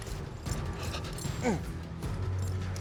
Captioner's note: grunts